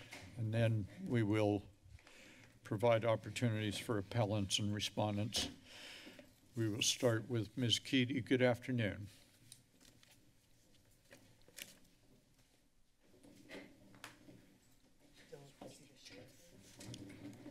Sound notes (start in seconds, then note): none